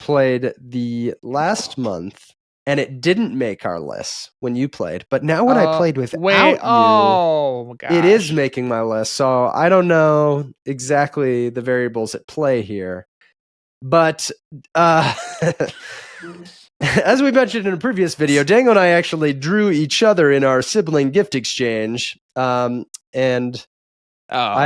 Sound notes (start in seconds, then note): 14.9 laughs